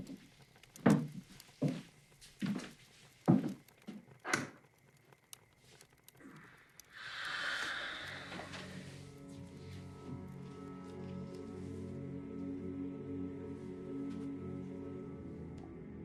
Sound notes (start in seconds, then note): 6.2 sighing; 10.8 soft melancholic instrumental